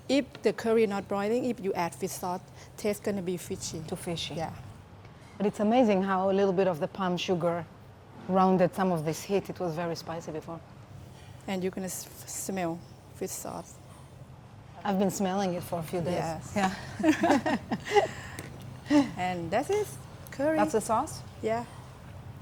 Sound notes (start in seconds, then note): 16.6 laughs